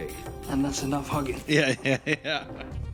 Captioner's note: laughs